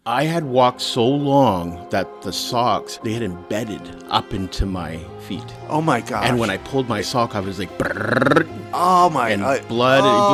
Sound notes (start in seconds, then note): 7.8 trills tongue